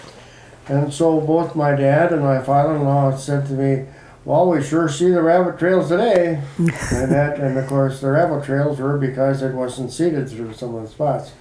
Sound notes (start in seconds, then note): 6.4 chuckle